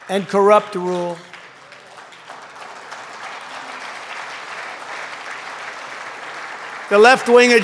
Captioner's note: applause